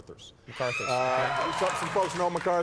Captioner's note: audience cheering